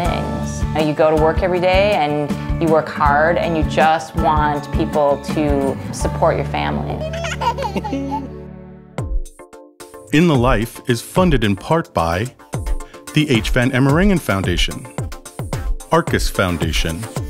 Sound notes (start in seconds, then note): 6.9 child laughing